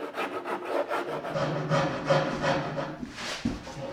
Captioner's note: muffled, deep planing tone